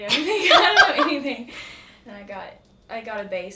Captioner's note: laughs